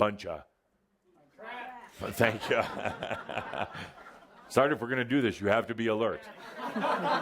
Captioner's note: laughter and Adamus chuckles; laughter